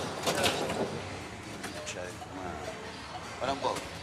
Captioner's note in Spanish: murmura